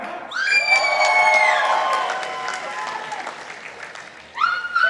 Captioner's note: participants applauding